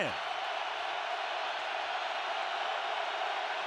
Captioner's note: crowd cheering